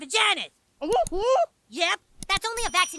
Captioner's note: Kenny exclaims